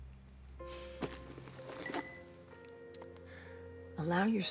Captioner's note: somber music; crystals clinking